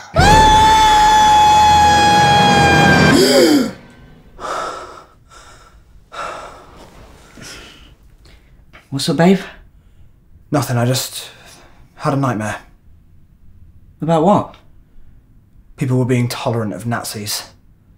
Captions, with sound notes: *screaming* *gasps* What's up, babe? Nothing. I just had a nightmare. About what? People were being tolerant of Nazis